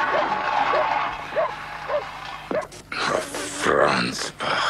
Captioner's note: engine sputtering